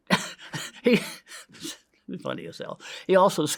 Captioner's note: inhales; laughs